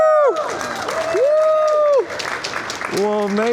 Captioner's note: A shower of applause pouring down from all sides of the shopping mall